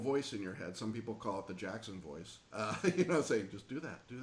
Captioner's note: laughing